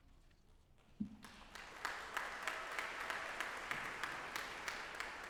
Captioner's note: audience applauding